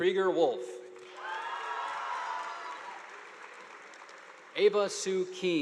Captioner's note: audience applauding